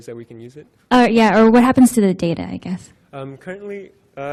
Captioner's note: voiceover